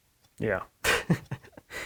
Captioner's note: chuckles